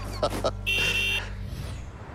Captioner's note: laughter; horn honking